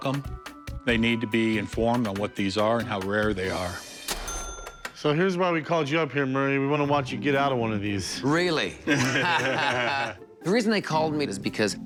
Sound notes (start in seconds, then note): 8.8 laughter